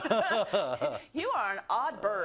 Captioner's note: laugh